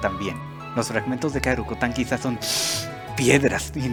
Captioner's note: sniff